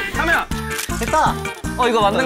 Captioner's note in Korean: 찰칵